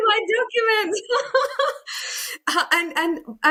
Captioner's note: laughs